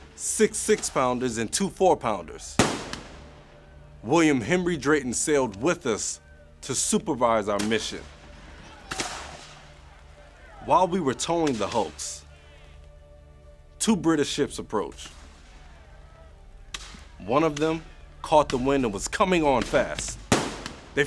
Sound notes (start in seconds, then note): 8.8 gunfire banging; 8.9 seamen shouting